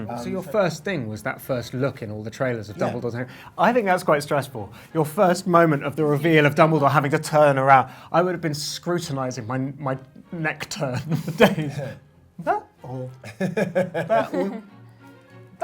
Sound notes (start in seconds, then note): 11.2 laughs